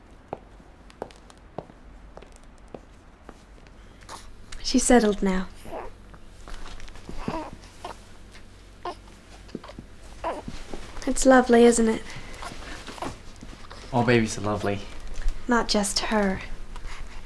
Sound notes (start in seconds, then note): 0.0 footsteps; 5.4 Rustling and Brady cooing; 5.6 Brady coos; 10.1 Brady coos